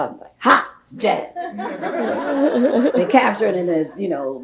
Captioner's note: audience laughs